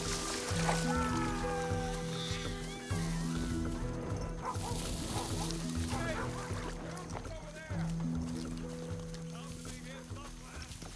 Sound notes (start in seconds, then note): 2.9 dogs barking in distance; 3.5 men shouting in distance